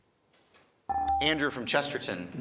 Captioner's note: buzzer chimes